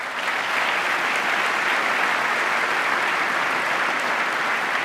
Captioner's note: applause